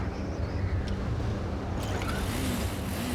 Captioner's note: engine starts